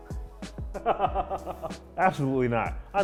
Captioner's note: laughs